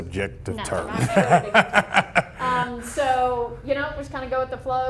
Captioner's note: laughter